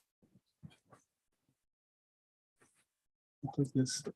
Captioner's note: indistinct conversation